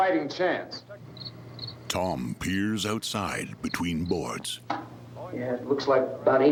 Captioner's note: crickets chirping